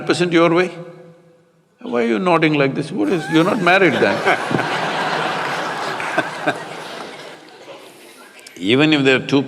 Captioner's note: laughter